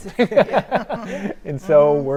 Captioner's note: panelists laughing